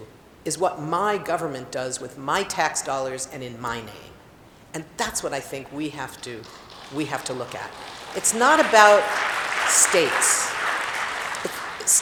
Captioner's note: applause